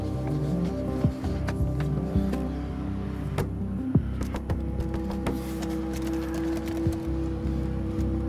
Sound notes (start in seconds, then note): 4.1 door hitting